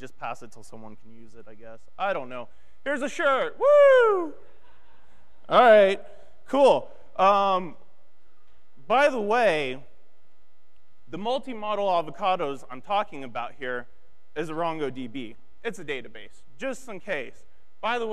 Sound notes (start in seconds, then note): 4.6 audience laughing